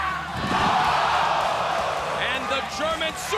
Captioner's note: crowd exclaiming